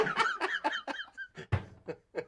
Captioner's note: laughs